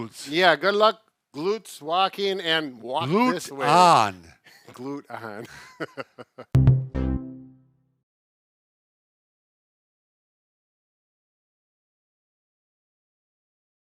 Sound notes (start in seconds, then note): 5.1 chuckles